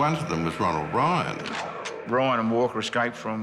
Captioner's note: gun cocks